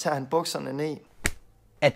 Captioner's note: slap